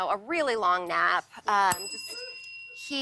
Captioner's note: ding